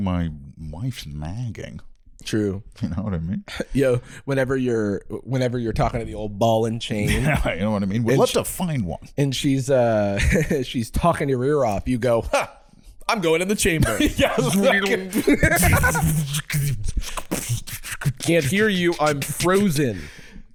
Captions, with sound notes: my wife's nagging. - True. - You know what I mean? Yo, whenever you're talking - to the old ball and chain? - You know what I mean? - Would love to find one. - And she's, uh, she's talking your ear off. You go, "Ha! I'm going in the chamber." (both making various sci-fi sound effects) Can't hear you. I'm frozen.